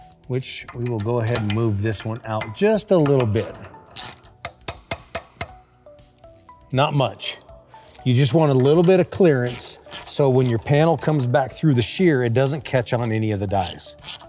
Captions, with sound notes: Which we will go ahead and move this one out just a little bit. (tool clicking) (tool banging) Not much. You just want a little bit of clearance so when your panel comes back through the shear, it doesn't catch on any of the dyes.